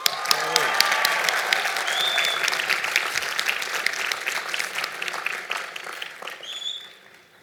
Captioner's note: applause